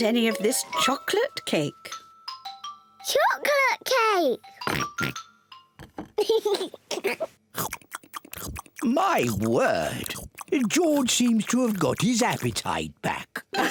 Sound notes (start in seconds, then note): 4.7 oinks; 6.2 giggles